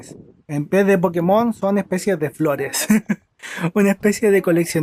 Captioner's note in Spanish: risas